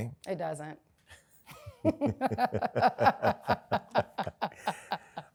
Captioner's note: laughter